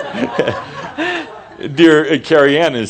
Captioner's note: laughter